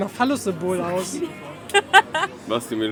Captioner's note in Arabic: يتحدث بلغة أجنبية; يضحك; يتحدث بلغة أجنبية